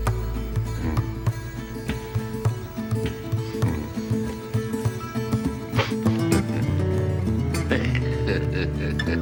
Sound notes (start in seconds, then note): 5.4 chuckling; 7.3 laughing